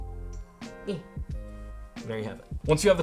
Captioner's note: grunts